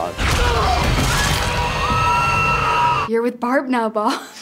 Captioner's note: Joyce screaming